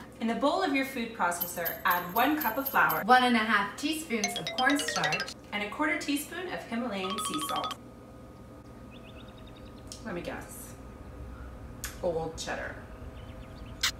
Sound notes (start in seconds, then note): 8.3 birds chirping; 13.8 lips squeaking